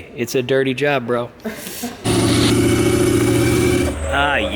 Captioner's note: laughing; loud revving